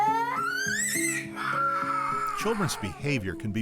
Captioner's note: girl Crying